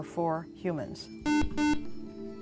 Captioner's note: buzzer